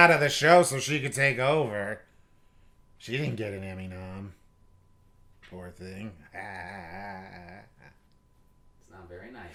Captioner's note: evil laugh